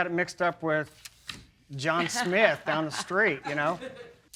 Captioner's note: laughs